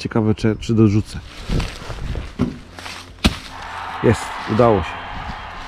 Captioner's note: cheers, applause